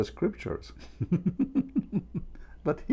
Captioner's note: Ketawa